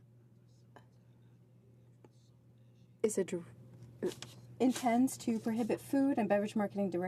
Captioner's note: speaking French